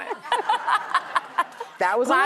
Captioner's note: laughter